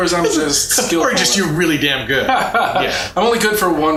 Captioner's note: laughs